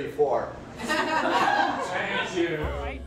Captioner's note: audience laughs